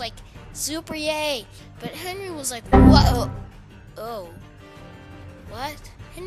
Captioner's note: windows error